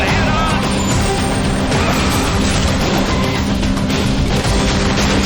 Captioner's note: tires screeching